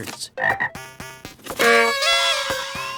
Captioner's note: frog ribbits; sound of noise-makers and kazoos